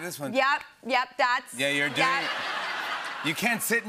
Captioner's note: laughter